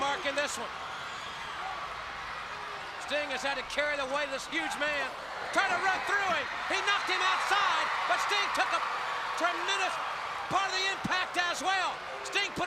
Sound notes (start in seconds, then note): 4.0 crowd chatter